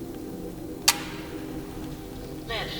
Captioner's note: camera clicks